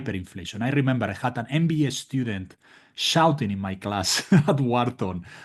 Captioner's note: laugh